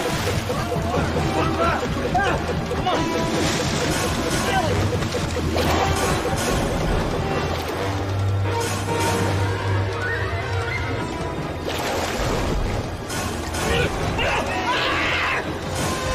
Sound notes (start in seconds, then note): 0.7 shouts; 3.3 blip increasing; 7.1 scary music intensifies; 14.2 Kafi screams